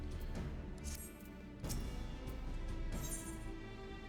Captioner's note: squeak